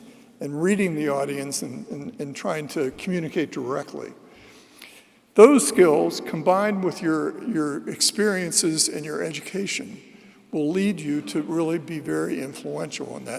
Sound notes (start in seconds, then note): none